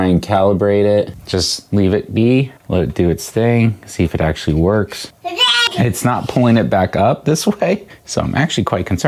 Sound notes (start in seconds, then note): 5.2 baby call